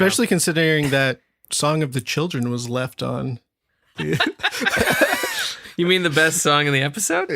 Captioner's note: laughter